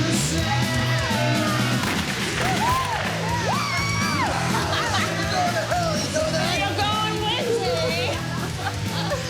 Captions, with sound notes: (rock music playing) (gunshots) (cheering) Whoo! (laughing) You're going to hell, you know that? You're going with me!